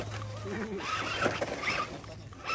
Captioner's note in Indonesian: Tertawa